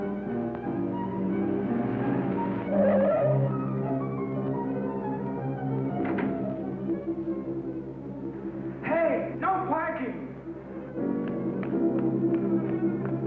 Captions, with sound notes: (tires squealing) - Hey, no parking! (dramatic music)